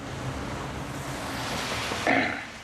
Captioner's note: clears throat